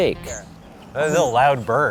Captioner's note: birds chirping